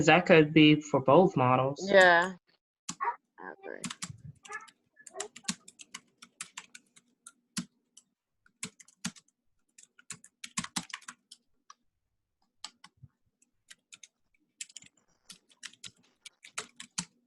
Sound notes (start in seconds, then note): 3.8 keyboard clatters